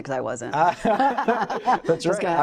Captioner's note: laughing